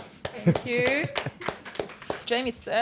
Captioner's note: all clapping